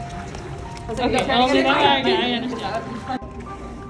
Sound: background chatter; soft tapping noise of paw on ground; background music

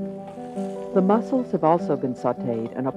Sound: voiceover

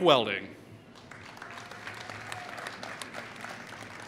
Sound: applause

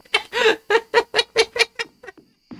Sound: laughter

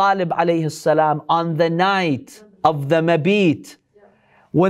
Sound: Arabic; Arabic

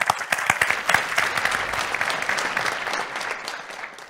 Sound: clapping

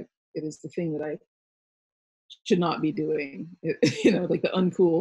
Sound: laughs

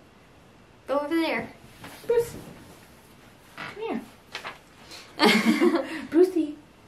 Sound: both laugh

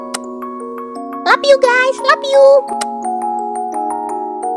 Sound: kiss

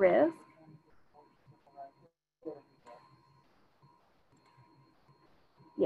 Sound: student speaking faintly

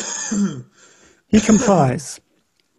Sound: coughing

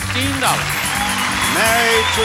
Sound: audience applauding

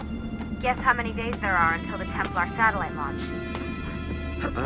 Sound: Lucy through radio

